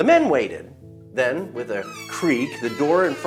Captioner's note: door opening